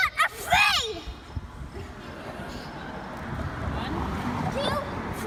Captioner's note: laughter